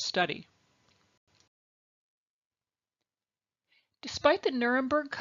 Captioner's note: silence